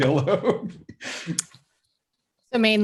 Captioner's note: chuckling